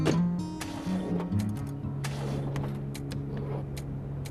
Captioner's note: CAR ENGlNE STALLlNG